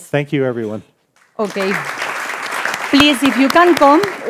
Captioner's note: audience applauding